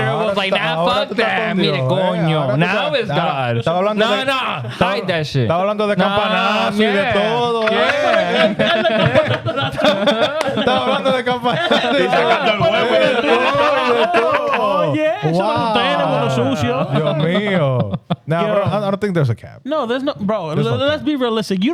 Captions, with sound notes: It was like, now fuck that, me and Gonyo. Now is God. (Speaking In Foreign Language) (All Laughing) (Speaking In Foreign Language) Oh yeah, she's like, "Dana want a sushi, yo." (Speaking In Foreign Language) Now bro, I don't think there's a cap. No, there's nothing, bro. Let's be realistic.